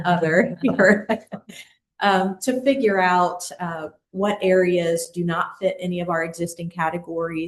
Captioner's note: laughter